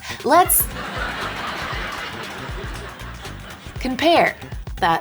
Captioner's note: audience laughing